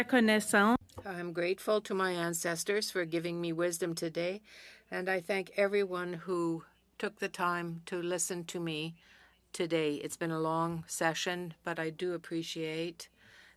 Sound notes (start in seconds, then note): 6.3 speaking French